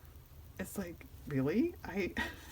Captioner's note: laughs